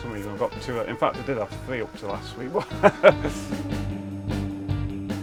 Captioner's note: laughs; cheerful music